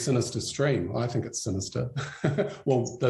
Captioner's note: chuckles